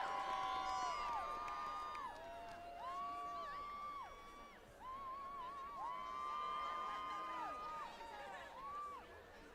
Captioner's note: applause